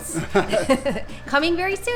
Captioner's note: both laughing